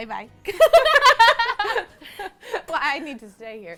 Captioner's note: both laugh